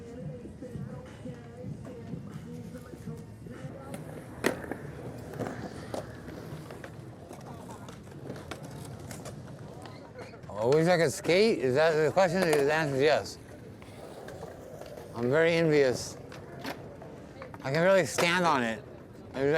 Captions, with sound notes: (skateboard wheels rolling) I wish I could skate? Is that the question? 'Cause, the answer's yes. I'm very envious. I couldn't really stand on it.